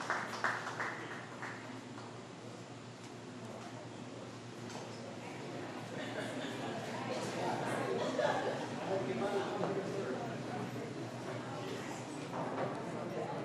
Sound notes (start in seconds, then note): 0.0 applause